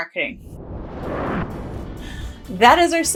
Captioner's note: logo Whooshes